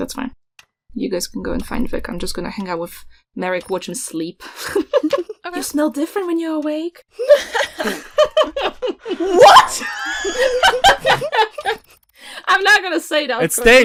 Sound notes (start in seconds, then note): 4.5 laughter; 7.2 laughter; 11.1 laughs